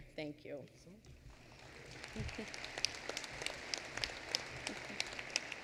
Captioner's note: applause